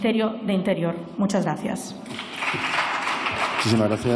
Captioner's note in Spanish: Aplausos